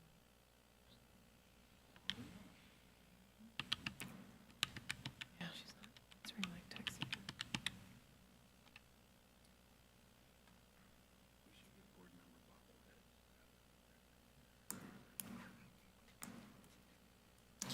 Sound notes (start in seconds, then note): 5.7 board member faintly speaking